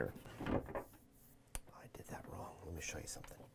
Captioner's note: door clanking